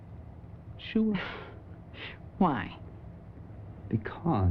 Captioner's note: giggles